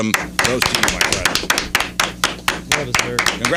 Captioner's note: clapping